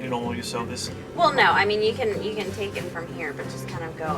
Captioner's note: voiceover